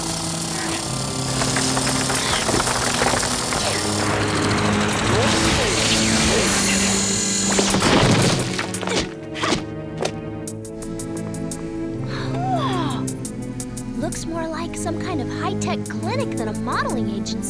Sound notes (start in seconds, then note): 0.1 drilling; 1.5 grunting; 5.0 drilling; 9.7 grunting; 13.2 gasp